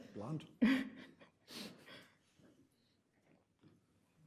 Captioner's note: chuckles